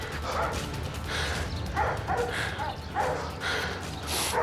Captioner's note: panting